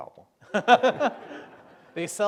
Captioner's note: laughter